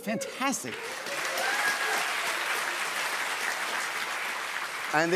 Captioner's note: cheers and applause